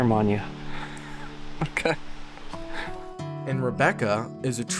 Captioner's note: laughs